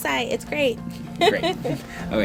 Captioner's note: laughs